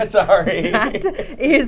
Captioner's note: laughs